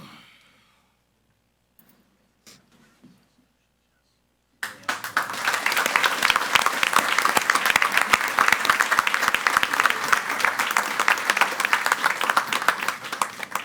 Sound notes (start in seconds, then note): 5.1 audience applauds